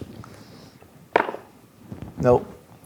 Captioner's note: dice rolling